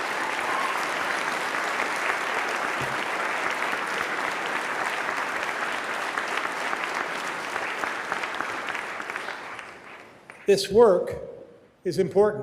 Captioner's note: applause